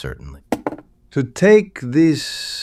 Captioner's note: SFX: pen hits desk